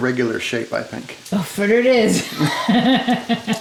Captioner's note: woman laughs